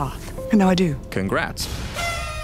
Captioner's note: pop